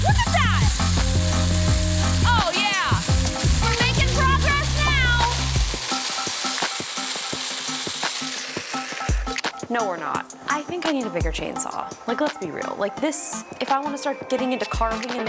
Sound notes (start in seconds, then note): 5.4 chainsaw whirring; 6.9 funky music continues